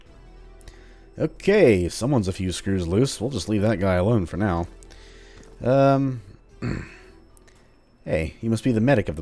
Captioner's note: clears throat